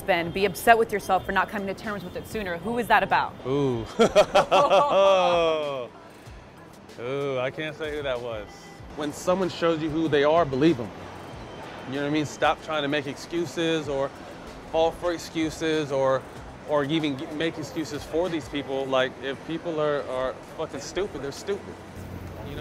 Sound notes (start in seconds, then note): 3.8 both laughing